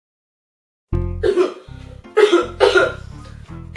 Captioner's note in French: toux